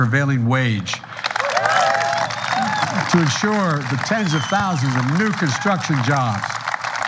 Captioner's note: applause